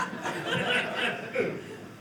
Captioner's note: audience laughing